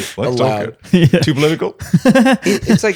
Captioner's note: laughing